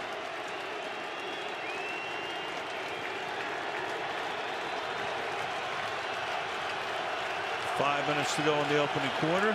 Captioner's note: crowd cheering